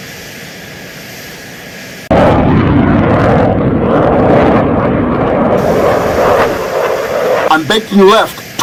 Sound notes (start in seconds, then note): 1.9 jet engine roaring